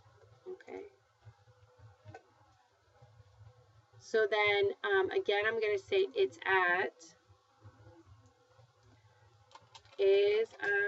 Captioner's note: speaking spanish